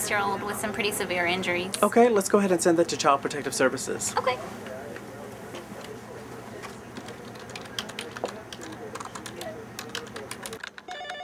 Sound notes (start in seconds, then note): 7.6 telephone ringing; 7.6 typing